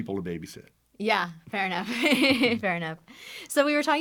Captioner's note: chuckles